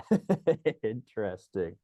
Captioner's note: laughs